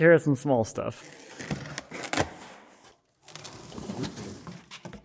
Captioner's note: box tearing